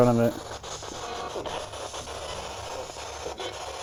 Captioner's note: static